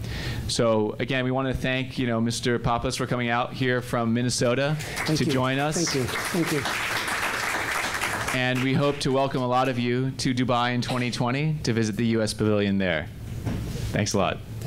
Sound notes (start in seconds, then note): 7.2 applause